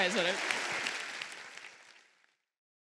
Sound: applause

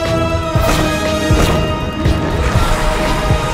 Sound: air whooshing; web whooshing; Venom hissing

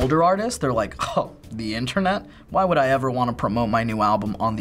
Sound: scoffs

